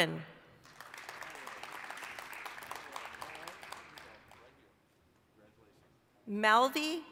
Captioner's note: applause